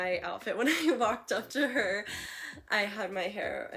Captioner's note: laughing